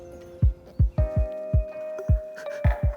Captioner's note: crying